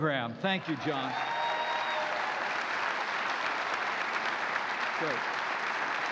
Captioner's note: applause